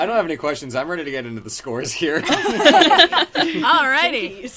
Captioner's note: laughter